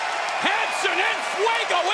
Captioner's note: cheers and applause